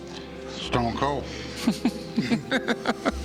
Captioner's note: laughs